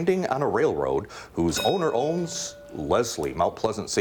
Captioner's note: bell rings